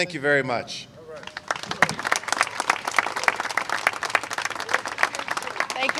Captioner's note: applause